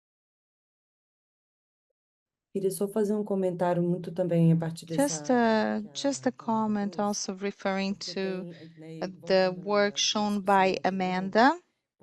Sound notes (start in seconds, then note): 2.7 speaking in Portuguese